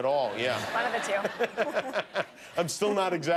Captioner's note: laughter